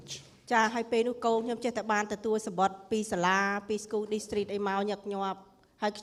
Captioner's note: speaking foreign language